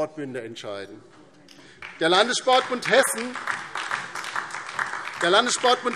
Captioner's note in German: Beifall DIE LINKE